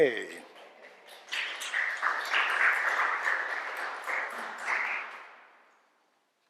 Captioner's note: applause